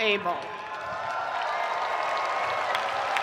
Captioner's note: spectators cheering; spectators applauding